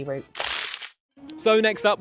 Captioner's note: screen rustling